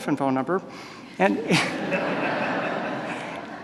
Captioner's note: laughter